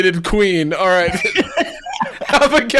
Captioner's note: laughing